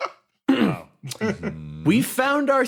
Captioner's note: clears Throat